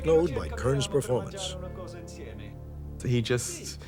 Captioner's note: speaking foreign language